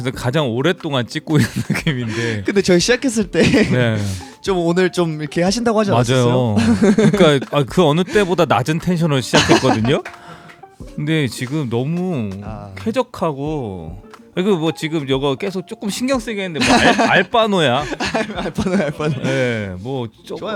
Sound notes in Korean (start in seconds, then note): 17.7 웃음